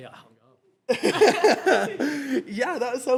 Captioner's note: laughing